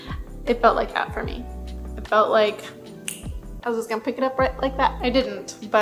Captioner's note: snaps